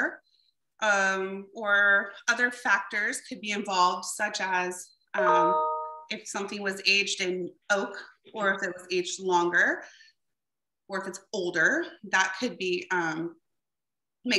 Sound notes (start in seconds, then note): 5.1 notification dings